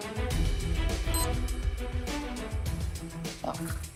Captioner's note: dramatic music; machine beeps